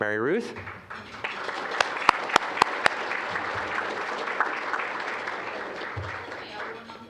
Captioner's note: applause